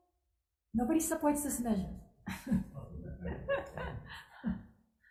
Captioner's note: chuckles